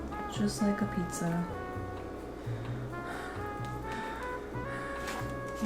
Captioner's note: heavy breathing